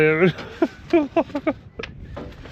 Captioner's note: laughs